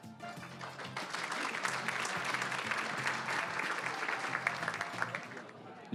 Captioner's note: applause